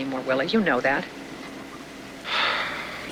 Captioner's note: sighs